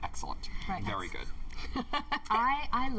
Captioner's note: laughter